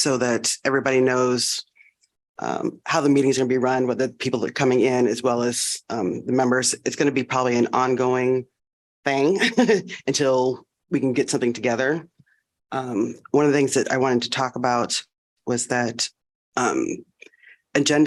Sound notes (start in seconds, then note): 9.4 laughter